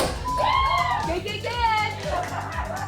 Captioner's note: all shouting; chatter